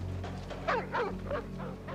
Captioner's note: distant dog barking